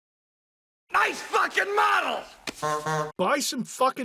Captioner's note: honk honk